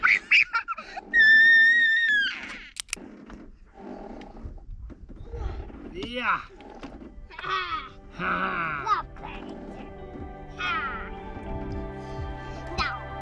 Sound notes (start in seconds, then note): 0.0 laughs; 7.2 playfully growls; 10.6 soft music